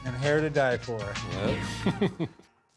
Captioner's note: chuckles